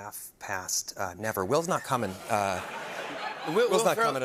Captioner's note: laughter